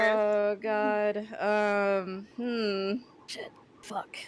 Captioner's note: unhappy noises